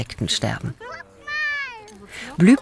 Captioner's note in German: Freudige Kinderrufe